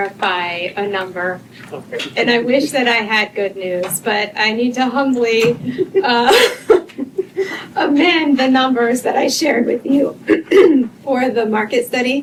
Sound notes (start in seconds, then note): 5.6 laughter; 10.4 clears throat